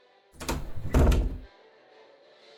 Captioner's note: door opening